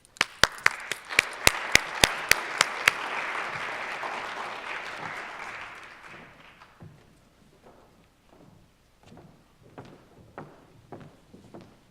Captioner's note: applause